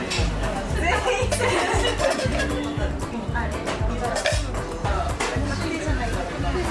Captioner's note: laughs